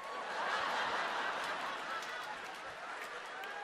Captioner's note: crowd laughing